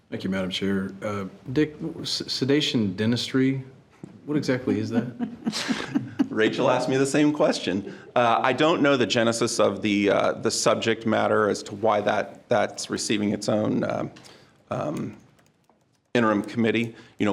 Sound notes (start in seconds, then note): 4.7 chuckling